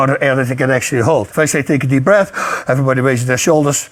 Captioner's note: deeply inhales